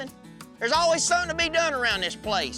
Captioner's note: angrily shouts